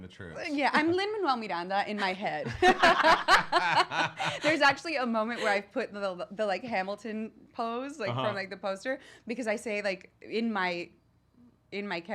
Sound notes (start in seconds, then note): 2.4 laughs